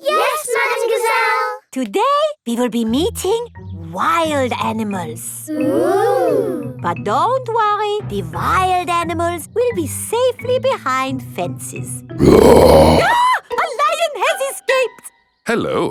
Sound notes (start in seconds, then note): 12.2 roars; 12.2 screams